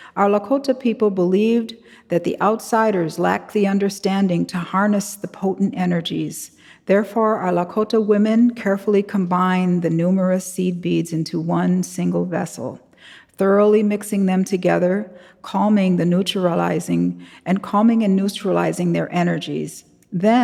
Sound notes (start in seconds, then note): none